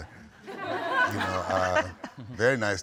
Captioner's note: audience laughing